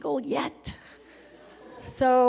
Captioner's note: laughter